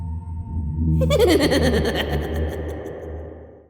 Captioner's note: mysterious music; creepy laughter